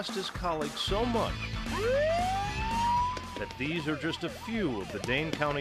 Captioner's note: sirens